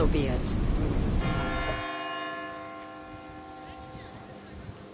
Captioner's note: church bell rings